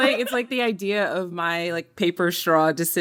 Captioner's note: laughter